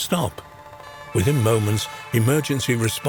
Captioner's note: sirens blaring